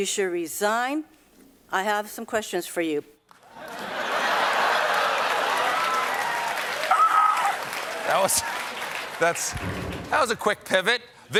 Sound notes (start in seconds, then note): 3.4 applause; 3.5 laughter